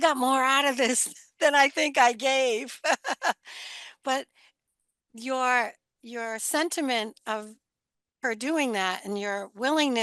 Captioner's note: laughs